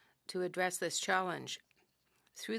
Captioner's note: speaking french